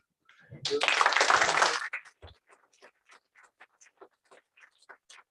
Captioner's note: applause